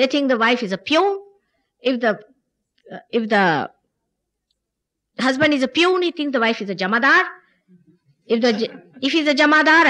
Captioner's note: laughter